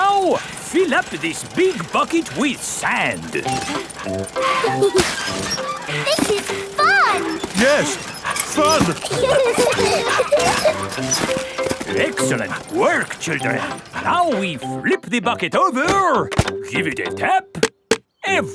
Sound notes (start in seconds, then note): 4.3 mummy and daddy pig panting; 4.3 peppa and george laughing; 7.8 straining; 9.4 peppa and george laughing